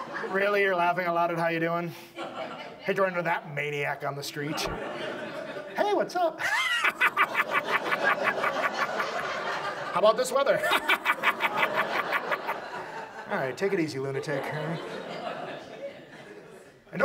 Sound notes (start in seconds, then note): 0.0 audience laughs; 2.2 audience laughs; 4.4 audience laughs; 9.8 laughs maniacally; 9.8 audience laughs; 13.1 laughs maniacally; 13.1 audience laughs